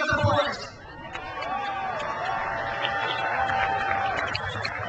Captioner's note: crowd cheers